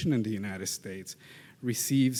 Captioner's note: none